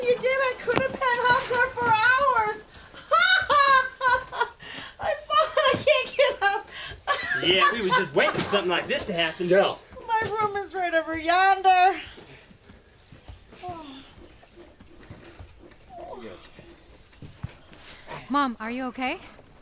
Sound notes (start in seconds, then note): 3.4 laughs; 13.5 Mrs. McDonald groaning